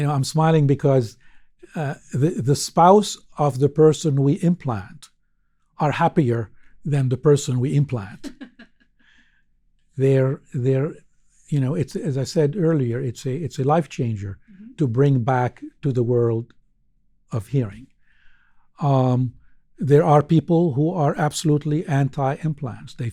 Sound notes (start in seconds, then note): 8.2 laughs